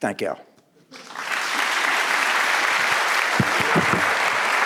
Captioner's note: audience applauding